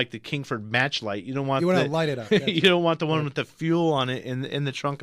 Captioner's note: laughs